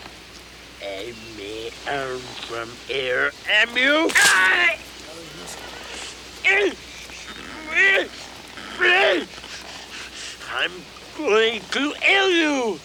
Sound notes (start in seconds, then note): 4.0 Bruto screams; 6.4 Bruto grunts wildly